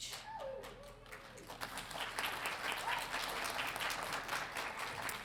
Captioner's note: audience applauding